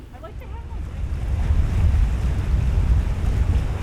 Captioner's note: wind whooshing